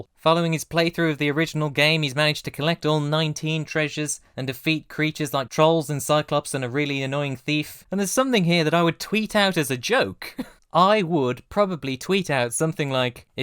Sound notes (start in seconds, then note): 10.4 laughs